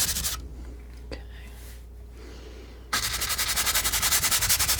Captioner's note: scratching